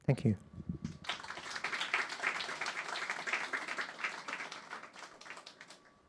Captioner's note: audience clapping